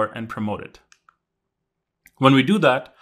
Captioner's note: remote clicking